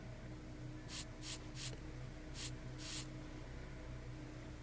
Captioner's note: spray hissing